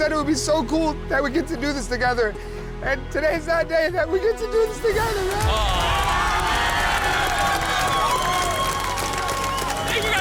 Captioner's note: cheering